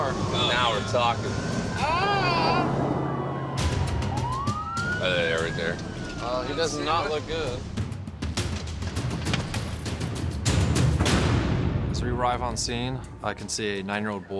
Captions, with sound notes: Now we're talking. Ahh. [siren] There they are, right there. Oh, he does not look good. [intense music] As we arrive on scene, I can see a nine-year-old boy.